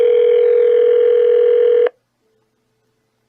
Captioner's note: phone still ringing